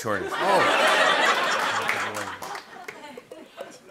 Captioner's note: laughter